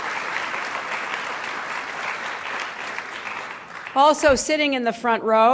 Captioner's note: applause